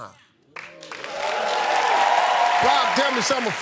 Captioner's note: cheers and applause